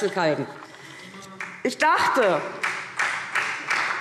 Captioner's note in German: Beifall SPD